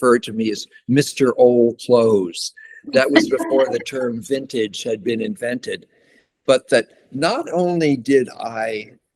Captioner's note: laughter